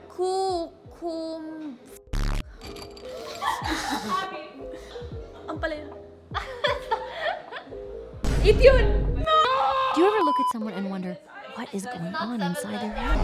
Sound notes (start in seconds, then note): 3.1 laughs, “ ”